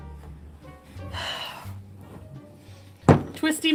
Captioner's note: sighs